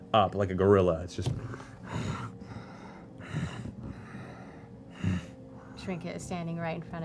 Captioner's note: heavy breathing